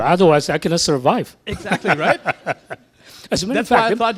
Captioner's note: laughing